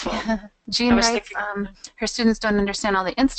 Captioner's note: laughs; voiceover